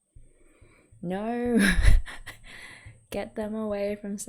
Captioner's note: laughs